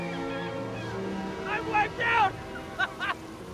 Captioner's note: laughs